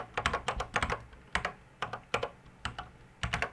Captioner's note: typing on a C64 keyboard